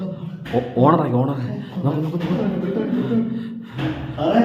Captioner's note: footsteps sound